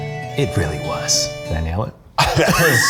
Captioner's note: laugh; laughing